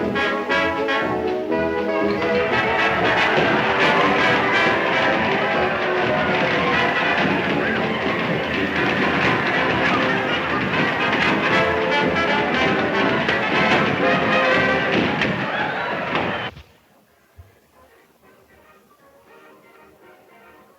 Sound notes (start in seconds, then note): 0.2 lively band music; 2.9 balloons popping; 5.9 dancers cheering; 9.4 balloons popping; 14.5 people cheering